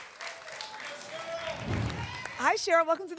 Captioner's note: applause and cheering cont